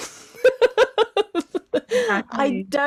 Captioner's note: laughs